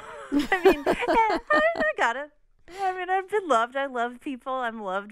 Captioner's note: laughter